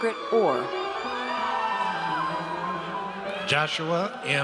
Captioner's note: audience cheers